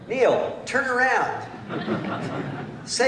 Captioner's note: laughter